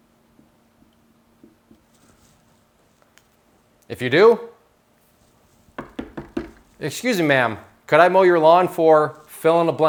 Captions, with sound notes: If you do (knocking) excuse me ma'am, could I mow your lawn for,